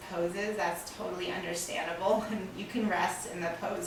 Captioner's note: laughing